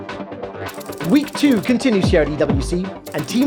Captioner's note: man in English